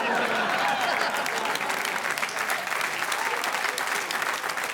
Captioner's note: audience applauding